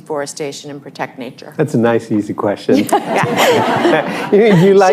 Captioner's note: laughter